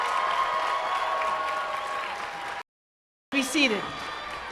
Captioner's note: cheers and applause